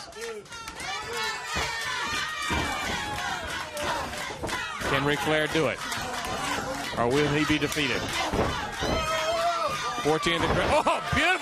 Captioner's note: crowd chatter